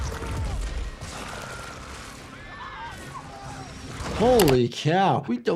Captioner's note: man screaming